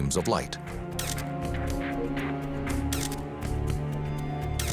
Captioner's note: camera shutter clicking